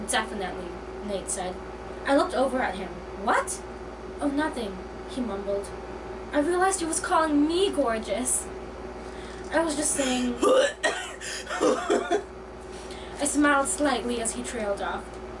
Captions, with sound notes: "Definitely," Nate said. I looked over at him. "What?" "Oh, nothing," he mumbled. I realized he was called me gorgeous. "I was just saying..." *gag* I smiled slightly as he trailed off.